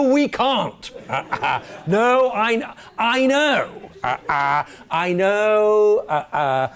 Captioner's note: laugh